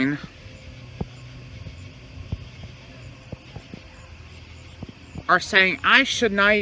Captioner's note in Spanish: Charla indistinta